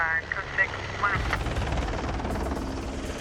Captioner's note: helicopter blades whirring